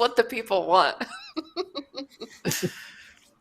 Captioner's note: chuckling